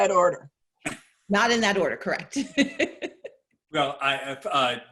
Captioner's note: laughing